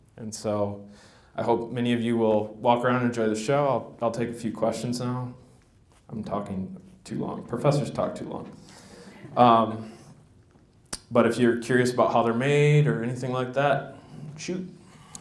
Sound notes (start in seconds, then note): 8.7 laughter